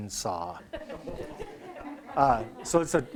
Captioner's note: group laughs